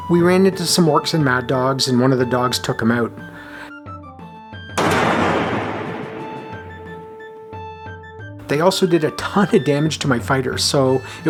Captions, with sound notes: We ran into some orcs and mad dogs, and one of the dogs took him out. [loud thunk] They also did a ton of damage to my fighters, so